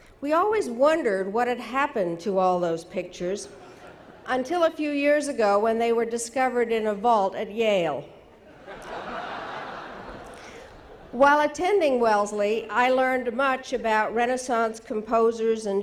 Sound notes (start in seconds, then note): 3.5 audience laughing; 8.4 audience laughing